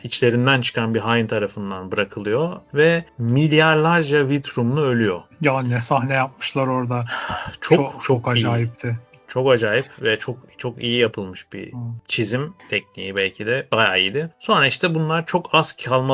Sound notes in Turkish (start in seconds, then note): 7.1 iç çeker